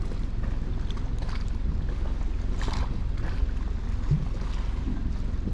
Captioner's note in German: Wasser plätschert sanft